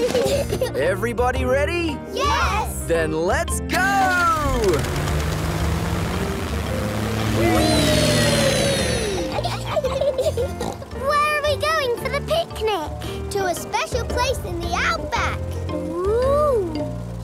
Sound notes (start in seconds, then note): 0.0 children giggle; 8.9 laughs and snorts